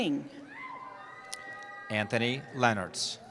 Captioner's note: cheering